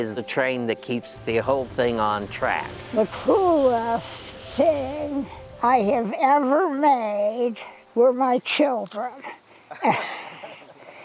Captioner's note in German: Gelächter